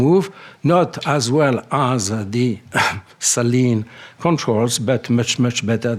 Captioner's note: clears throat